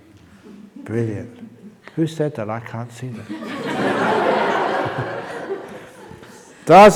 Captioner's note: laughter